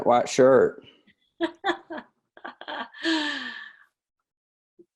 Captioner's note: laughs